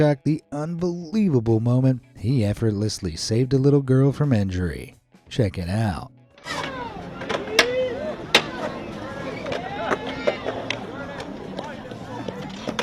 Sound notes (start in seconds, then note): 6.4 people chattering; 6.4 skateboard clattering